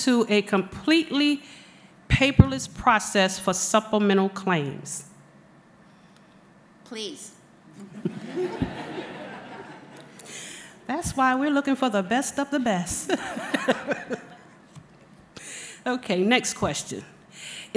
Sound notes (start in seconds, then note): 7.8 laughter